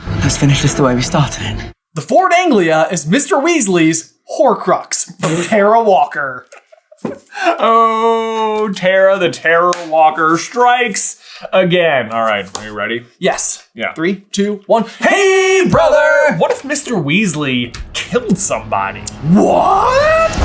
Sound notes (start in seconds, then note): 6.4 cracking up laughing